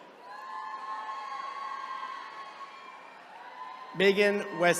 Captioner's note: attendees cheering